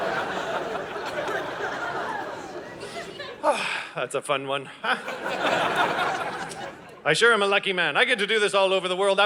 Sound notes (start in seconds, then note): 0.0 audience laughing; 4.8 audience laughing